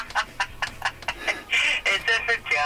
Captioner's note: laughs